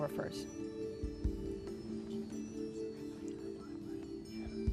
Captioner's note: whispering